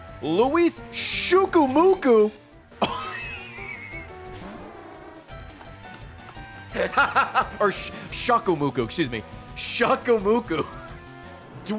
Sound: laughs

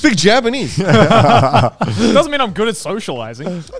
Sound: all laughing

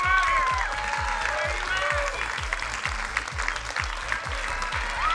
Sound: crowd cheering and applauding

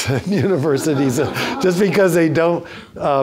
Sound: everyone laughs

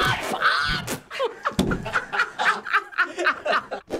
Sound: Finebros and Libby laugh

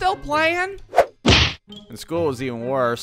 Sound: whoooosh-thwack!

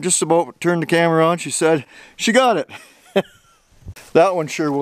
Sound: chuckle

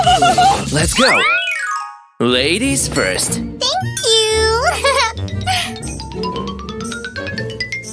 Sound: giggling; giggling

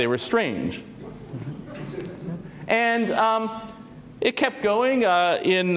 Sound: laugh

